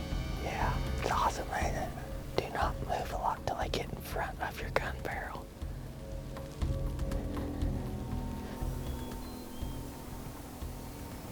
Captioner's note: whispering